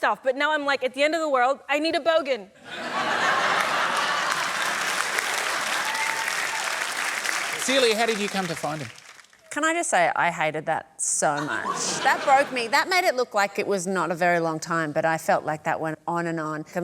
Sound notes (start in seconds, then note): 2.6 laughter